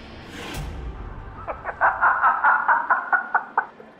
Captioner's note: Safdar Laughs